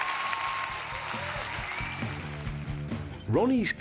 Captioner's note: cheers and applause